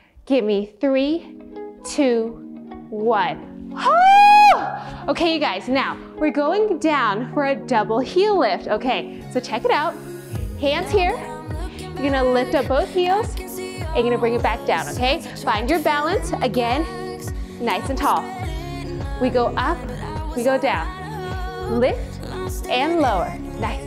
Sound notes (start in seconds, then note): 0.0 exhales; 4.0 shouting